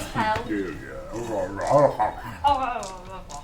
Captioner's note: growling noises